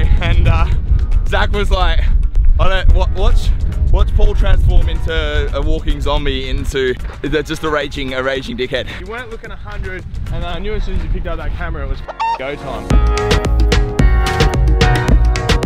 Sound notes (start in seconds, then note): 12.0 upbeat music; 12.0 squawk